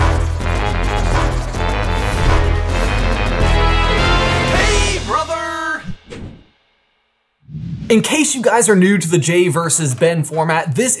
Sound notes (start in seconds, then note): 0.0 dramatic music; 7.4 screen whooshing